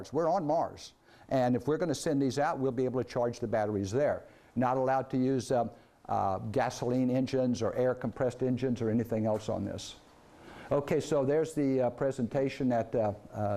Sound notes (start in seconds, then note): none